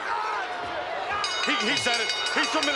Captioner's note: bell rings